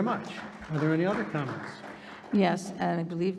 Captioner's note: audience applauding